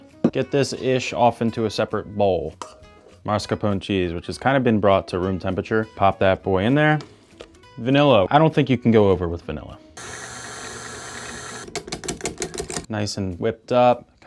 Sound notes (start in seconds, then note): 10.0 mixer whirls; 10.2 spoon bangs